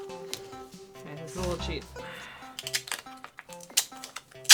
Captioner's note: tearing of masking tape in background